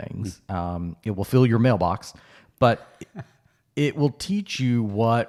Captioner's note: chuckles